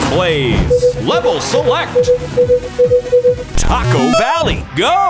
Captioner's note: beeping